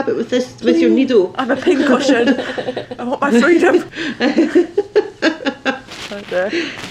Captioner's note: laughter